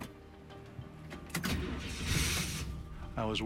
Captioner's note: engine turns over